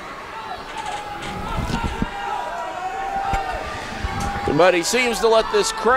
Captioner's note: crowd continues cheering